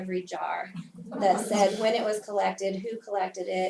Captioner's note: laugh